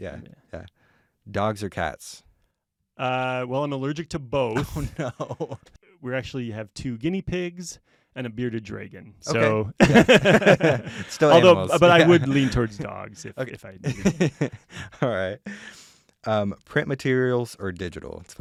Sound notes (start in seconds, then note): 9.8 laughter